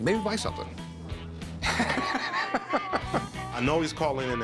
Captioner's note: laughs